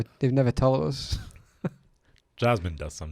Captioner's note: laughs